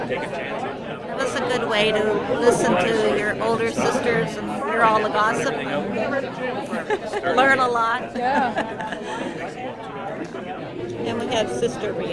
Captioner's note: laughs